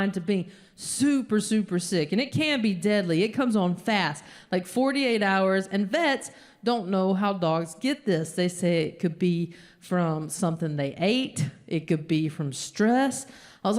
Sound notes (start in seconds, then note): none